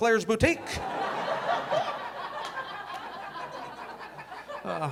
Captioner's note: audience laughing